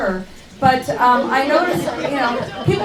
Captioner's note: laughing